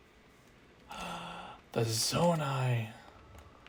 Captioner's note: gasp